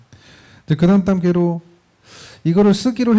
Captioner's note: speaking korean